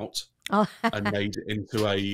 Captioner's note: laughs